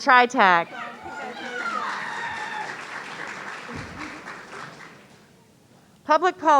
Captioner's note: audience cheering